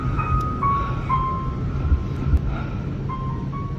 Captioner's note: dramatic piano music; breath; distant piano music